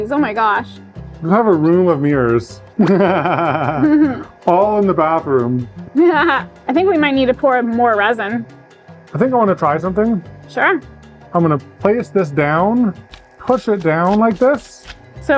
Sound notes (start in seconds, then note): 2.8 laughs; 5.9 laughs